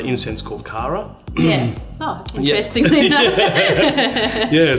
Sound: laughs

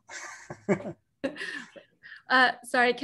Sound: chuckles

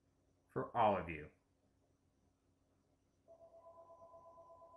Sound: phone ringing in background

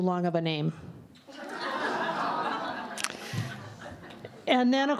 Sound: laughter

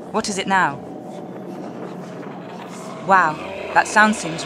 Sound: horror noises

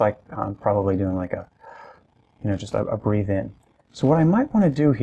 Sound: inhale sound

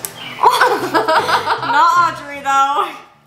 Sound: both laugh

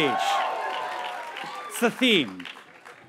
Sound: audience cheers and applauds

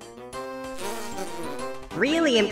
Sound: pleased fart noise

